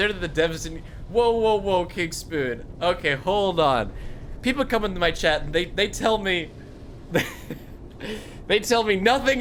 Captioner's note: laughs